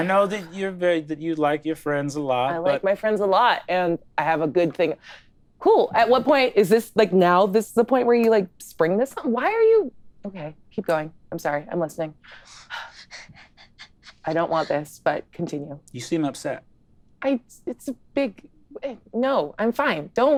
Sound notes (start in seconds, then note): 12.8 laughing